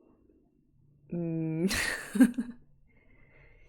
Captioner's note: laughs